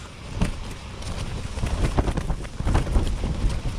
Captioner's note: heavy wind blowing